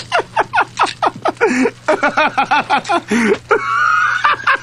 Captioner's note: laughing continues